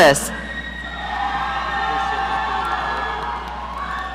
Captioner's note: audience cheering